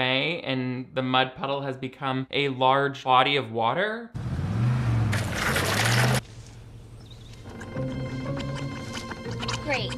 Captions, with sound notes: and the mud puddle has become a large body of water. (car engine revving) (light somber music) - Great.